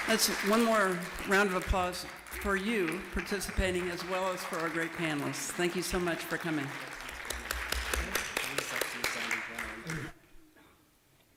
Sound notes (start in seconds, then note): 8.1 applause